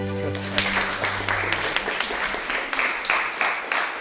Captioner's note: audience applauds